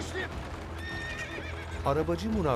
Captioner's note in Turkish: At kişneme sesi